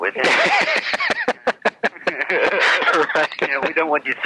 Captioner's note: laughs